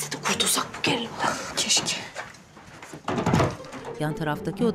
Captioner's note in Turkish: Kapı kapanma sesi